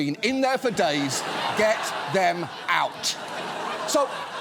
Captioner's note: studio audience laughs